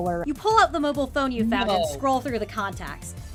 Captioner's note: gasping